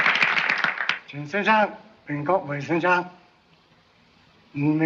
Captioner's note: applause; speaks chinese